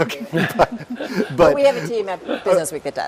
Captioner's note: laugh